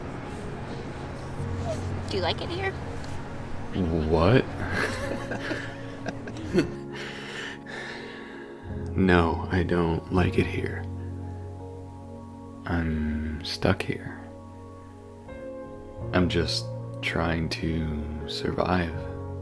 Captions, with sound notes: Do you like it here? What? [laughter] No I don't like it here I'm stuck here. I'm just trying to survive.